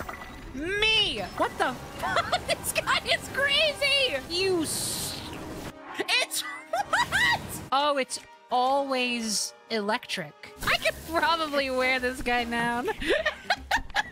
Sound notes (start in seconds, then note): 2.0 laughing; 12.8 laughter